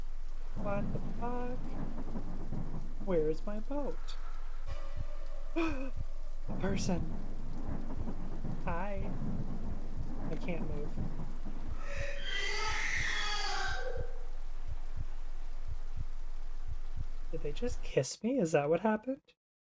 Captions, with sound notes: What the fuck? Where is my boat? (exaggerated gasp) person! hi <3 i can't move (ghostly screaming) Did they just kiss me? is that what happened?